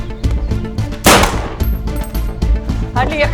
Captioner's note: gunshot